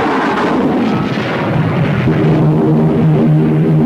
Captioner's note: plane engines roaring; weapons firing; plane engines roaring